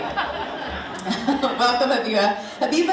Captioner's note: audience laughing